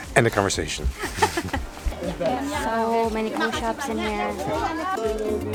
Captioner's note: laughing